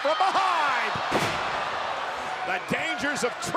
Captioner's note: Seth thuds